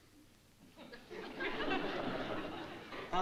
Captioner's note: laughter